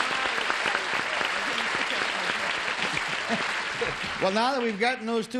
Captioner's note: applause